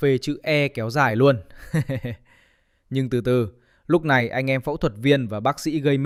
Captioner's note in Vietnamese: tiếng cười